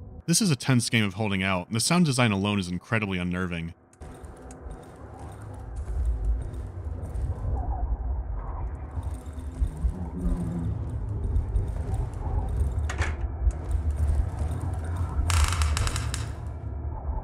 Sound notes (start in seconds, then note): 5.7 otherworldly sounds are coming from beyond the walls; 15.1 loud creak